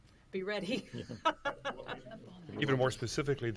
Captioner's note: laughing